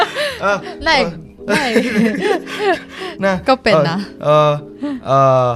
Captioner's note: laughing; Taiwanese